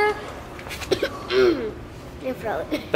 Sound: other children drowns out; coughs

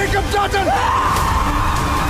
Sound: screams; dramatic music

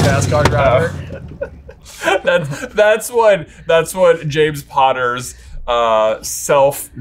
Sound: laughs

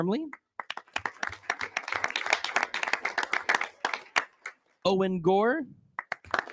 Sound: audience applauding; audience applauding

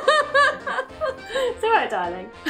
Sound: laughs

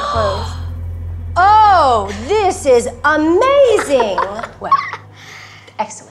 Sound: gasps; laughs

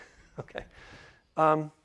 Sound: laughs

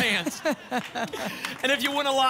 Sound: laughter

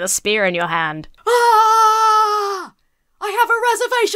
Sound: yells

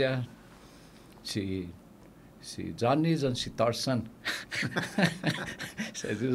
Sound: laughing

